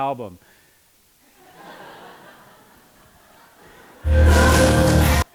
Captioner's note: laughter